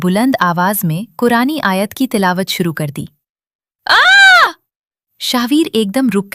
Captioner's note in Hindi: चीखने की आवाज़